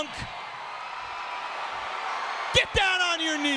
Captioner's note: audience cheering